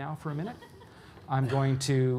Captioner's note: audience laughing